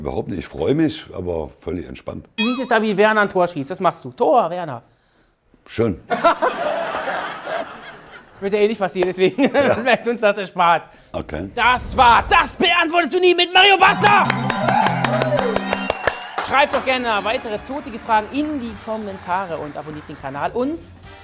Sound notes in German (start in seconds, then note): 13.8 Jubel, Applaus